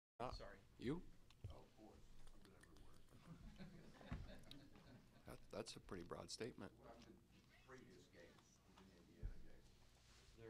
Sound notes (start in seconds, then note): 3.3 laughter